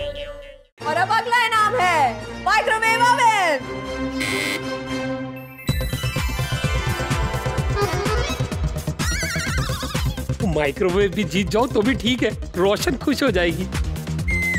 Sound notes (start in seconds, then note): 4.2 buzzer beeps; 5.6 suspenseful music plays